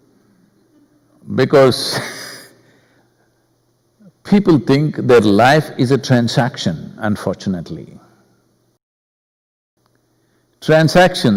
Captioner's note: laughs